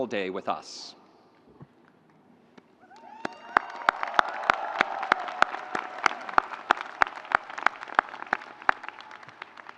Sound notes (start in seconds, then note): 2.8 audience cheering